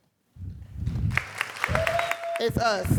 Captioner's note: audience cheering and applauding